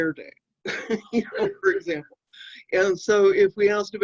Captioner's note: chuckling